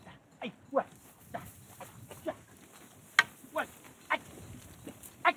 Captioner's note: animal calls